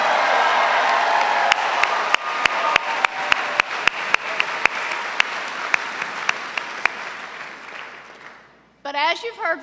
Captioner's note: cheers and applause